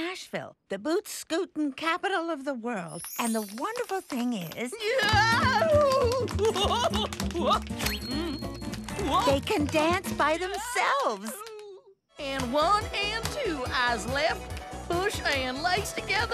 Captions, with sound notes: I borrowed them from a gnome from Nashville; the bootscootin' capital of the world. And the wonderful thing is... (Yelling) They can dance by themselves!